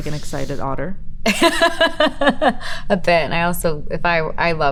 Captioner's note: Elizabeth laughs